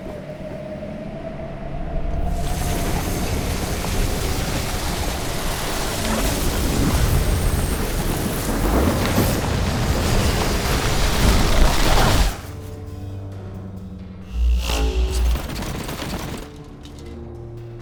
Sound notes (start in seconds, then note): 3.0 wind blows; 15.4 items clatter